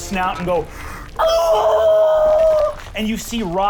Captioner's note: squealing